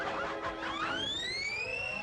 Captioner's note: pups yapping